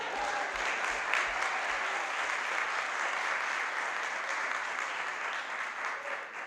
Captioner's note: applause